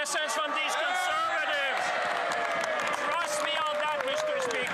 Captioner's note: some Applause